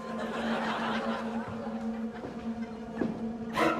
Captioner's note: laughter; sinister music